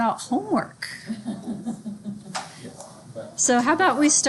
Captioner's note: student laughs